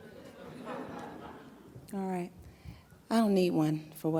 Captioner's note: audience laughs